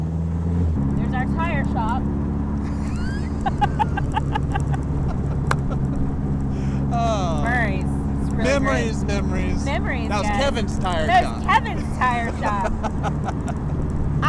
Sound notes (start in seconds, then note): 2.6 both laughing; 13.1 laughing